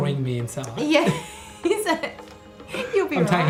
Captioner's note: laughing